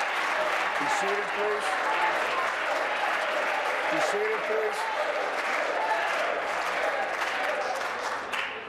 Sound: applause

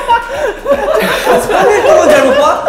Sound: laughing

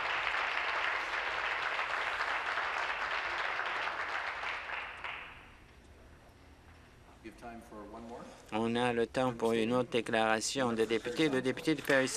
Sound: applause

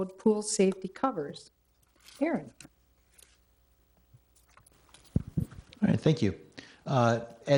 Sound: none

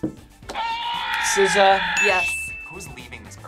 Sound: buzzer shouts

